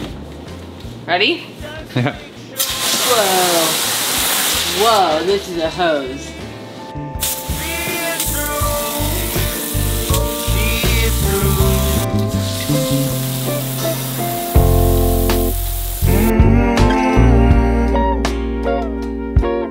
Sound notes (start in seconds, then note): 2.6 water spraying; 7.2 water spraying; 14.5 soulful music